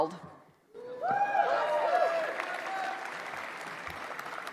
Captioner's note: applause